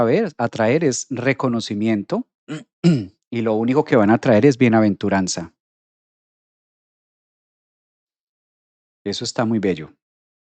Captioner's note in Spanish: carraspeo